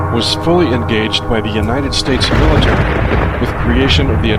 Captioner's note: bomb explodes